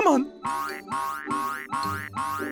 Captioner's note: boing